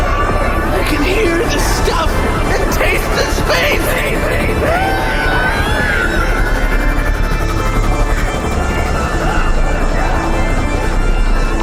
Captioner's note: echoes, time and space shifting